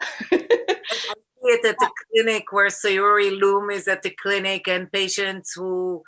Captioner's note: laughter; murmurs